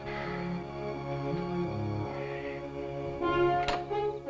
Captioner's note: groaning